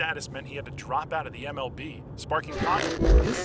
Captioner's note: static